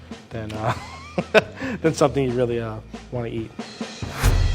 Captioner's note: laughs